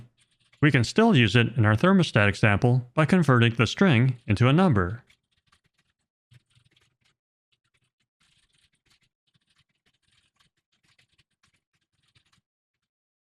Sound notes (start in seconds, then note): none